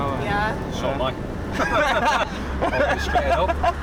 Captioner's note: they all laugh